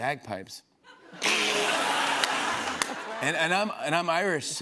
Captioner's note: laughter